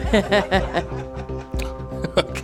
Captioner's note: laughter